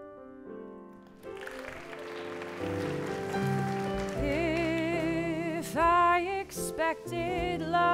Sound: applause

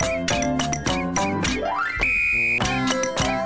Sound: tweeet

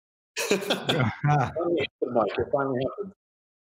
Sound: laughs

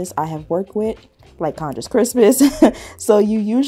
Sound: chuckles

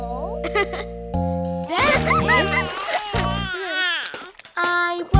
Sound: laughs

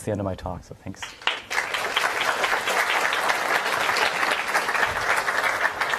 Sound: applause

